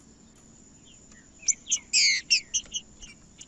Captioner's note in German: trinca ferro cantando